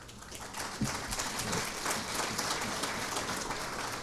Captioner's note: audience applauding